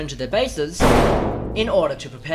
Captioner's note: slam